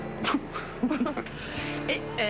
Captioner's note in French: Rires